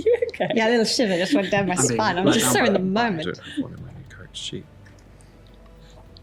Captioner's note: mutters